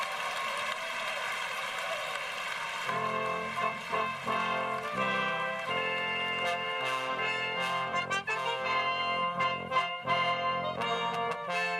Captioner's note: cheers and applause